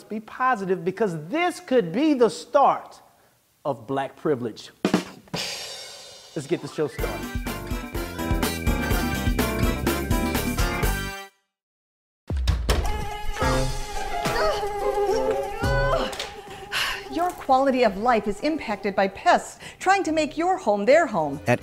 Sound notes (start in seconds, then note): 4.9 drum roll; 6.4 upbeat music; 12.9 mosquito sound; 14.3 sighs